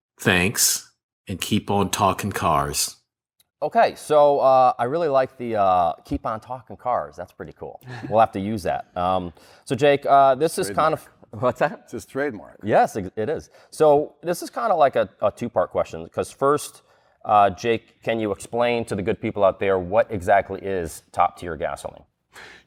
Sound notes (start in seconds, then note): 7.8 laughter